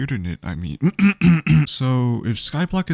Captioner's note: ahem